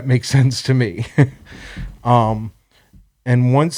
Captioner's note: laughs